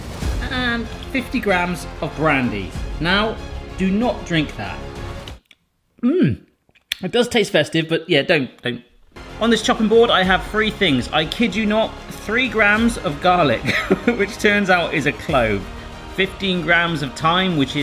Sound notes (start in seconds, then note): 13.6 laughing